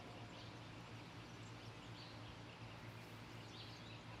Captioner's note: birds chirping